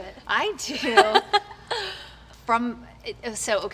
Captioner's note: laughs